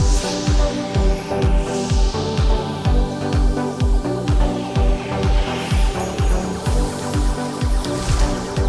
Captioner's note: rhythmic music; magical whooshes